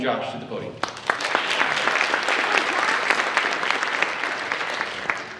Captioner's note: audience applauds